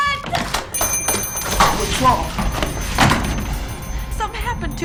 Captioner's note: thunder & lightning